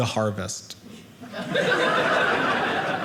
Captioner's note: audience laughing